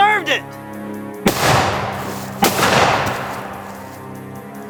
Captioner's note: gun banging